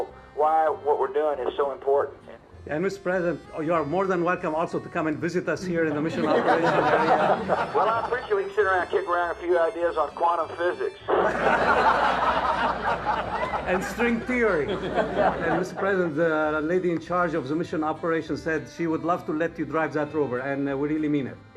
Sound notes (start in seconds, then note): 11.0 crowd laughs